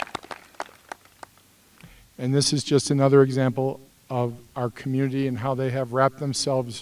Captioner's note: applause